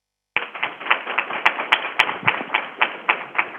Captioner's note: crowd applauding